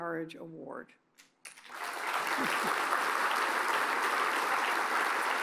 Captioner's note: applause